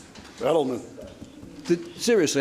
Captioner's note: none